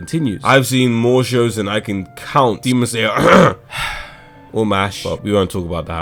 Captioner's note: cough